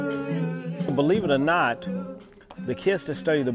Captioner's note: voiceover